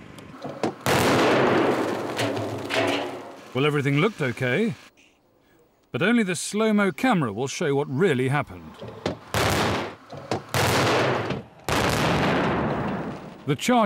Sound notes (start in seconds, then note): 0.6 bang!; 8.8 bang! Bang! Bang!